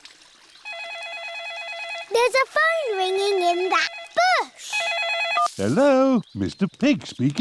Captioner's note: ringing